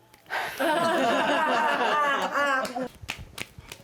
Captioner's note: laughter